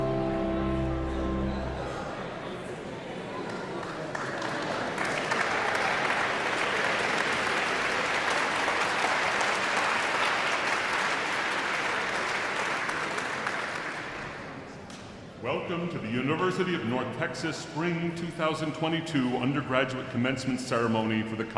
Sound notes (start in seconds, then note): 2.3 audience members continue chattering indistinctly; 4.4 audience clapping